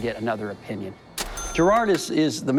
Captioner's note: ca-ching